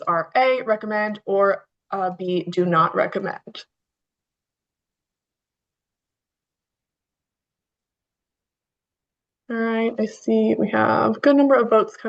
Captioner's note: pause